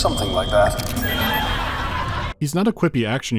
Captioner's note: laugh track